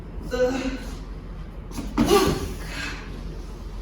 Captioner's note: grunting